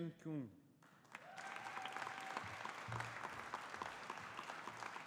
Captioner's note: audience applauding